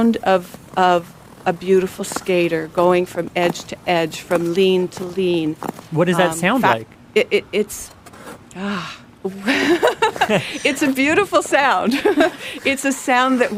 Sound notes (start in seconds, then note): 9.3 laughs